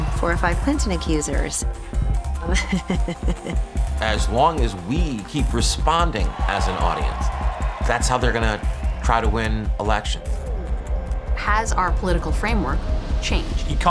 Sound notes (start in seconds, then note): 2.4 laughing; 7.2 crowd cheering